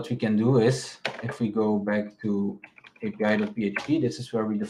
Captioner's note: keyboard clacking